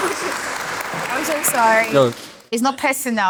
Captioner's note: applause